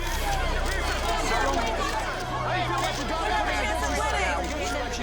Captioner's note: reporters clamoring